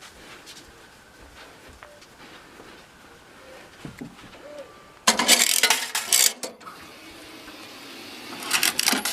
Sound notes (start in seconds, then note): 5.0 strange ever present radio playing in corner, laundry coin sounds